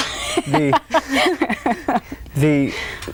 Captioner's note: all laugh